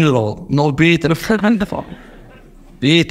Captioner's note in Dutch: gelach in de zaal